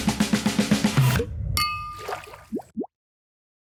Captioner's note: upbeat music; glasses clinking